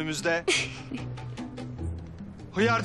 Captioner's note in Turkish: Gülüşme